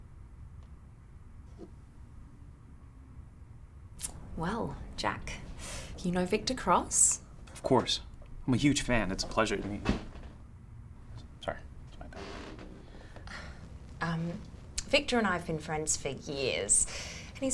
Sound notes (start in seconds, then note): 4.3 clicks tongue; 12.5 sighs